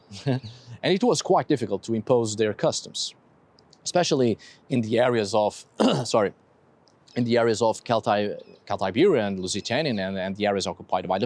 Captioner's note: coughs